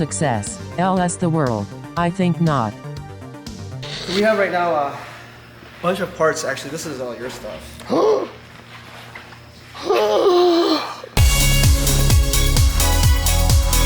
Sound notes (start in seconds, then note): 8.0 gasp; 11.2 upbeat music